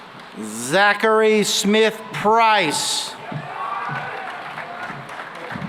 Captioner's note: cheering and applause